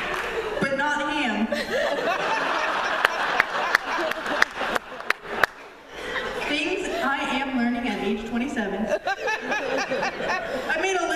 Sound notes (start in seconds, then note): 1.5 laughter; 8.8 laughter